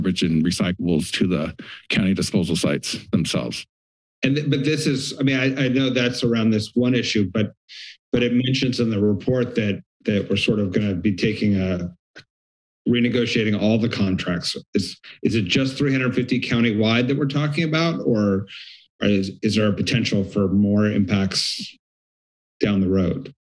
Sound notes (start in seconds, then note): 7.7 inhales